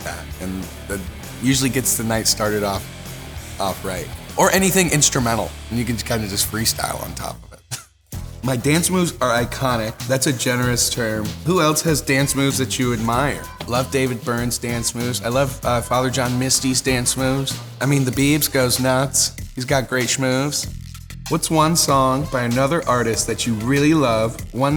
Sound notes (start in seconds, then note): 7.9 laughs; 8.4 upbeat music